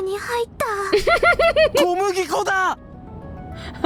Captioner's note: chuckles; chuckles